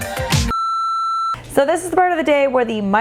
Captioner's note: beeping